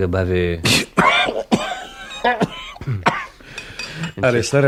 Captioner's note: coughing sound